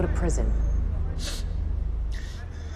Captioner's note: sniffles